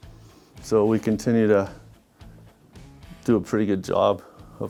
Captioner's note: none